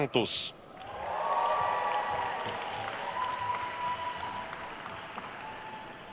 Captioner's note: attendees cheering and applauding